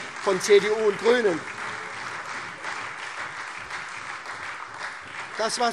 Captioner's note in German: Beifall SPD und Freie Demokraten